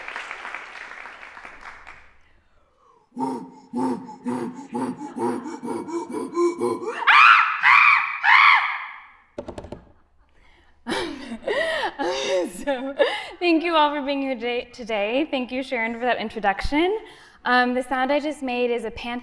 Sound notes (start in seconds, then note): 2.9 monkey sounds